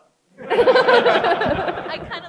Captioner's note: crowd laughs